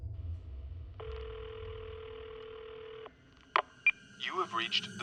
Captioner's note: phone ringing